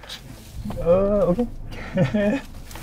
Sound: laughs

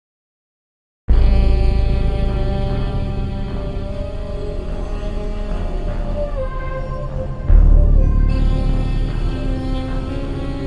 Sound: sound of horror

